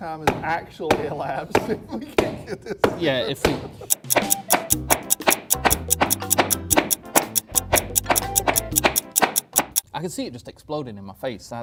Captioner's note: clock ticking